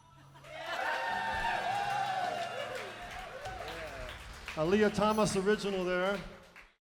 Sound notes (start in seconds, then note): 0.4 applause